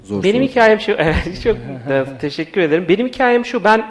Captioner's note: laughs